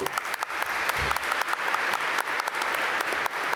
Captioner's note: applause